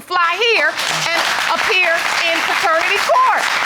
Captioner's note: audience clapping